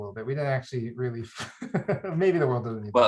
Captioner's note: laughs